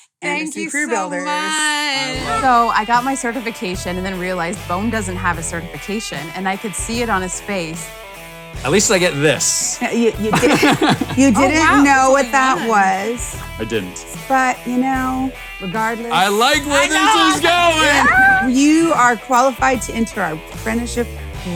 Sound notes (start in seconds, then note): 10.3 laughs